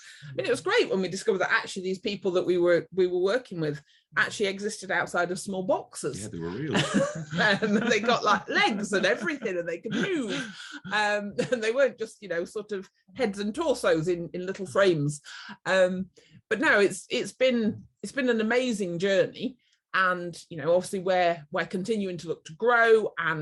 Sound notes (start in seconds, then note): 6.6 laughter